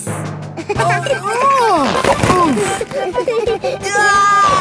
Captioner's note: giggling; grunting; giggling